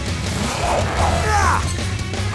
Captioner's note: grunting